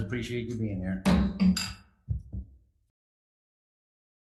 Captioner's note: gavel slamming